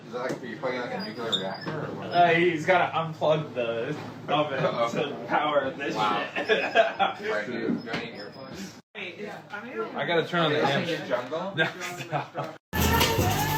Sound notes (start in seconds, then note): 6.2 laughter